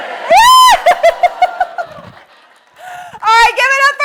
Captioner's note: screams and laughs